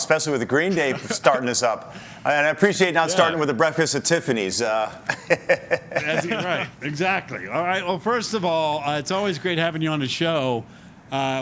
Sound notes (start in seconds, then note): 4.9 laughter